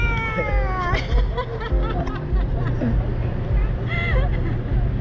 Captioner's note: laughter